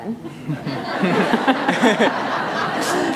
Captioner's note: laughter